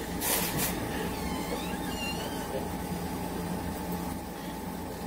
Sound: door squeaking

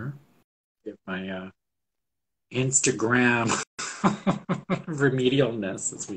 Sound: laughs

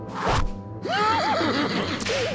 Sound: laughs

